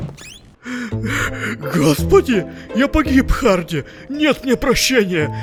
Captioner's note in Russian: рыдает, паникует